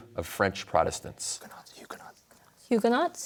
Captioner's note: whispers